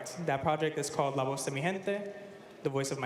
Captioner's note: speaking spanish